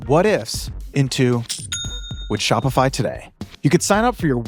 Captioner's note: coin dings